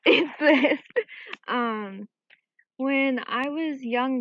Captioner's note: chuckles